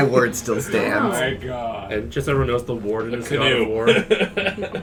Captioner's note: laughs